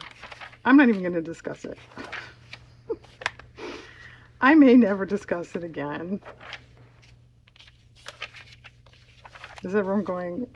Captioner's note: laughs